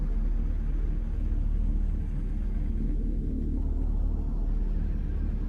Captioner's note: none